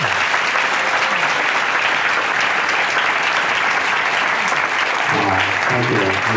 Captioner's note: applause